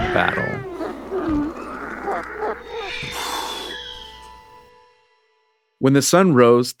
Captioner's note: cat growls